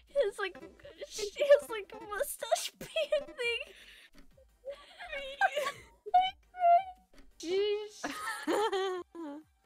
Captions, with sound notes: His like-- Mustache painting- *both laughing*